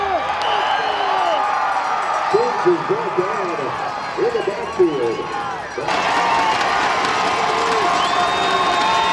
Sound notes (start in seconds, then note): 0.0 shouting; 0.4 whistles blowing; 1.5 crowd cheering; 5.9 sticks clapping